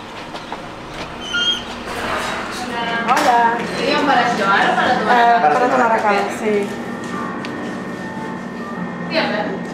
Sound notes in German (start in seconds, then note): 2.7 auf Spanisch